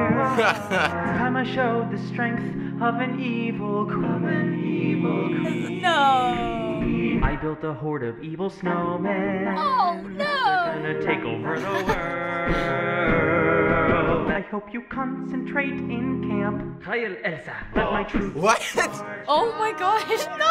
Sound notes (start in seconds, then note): 0.2 chuckles; 11.5 chuckling